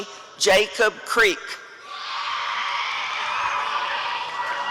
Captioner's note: applause and cheering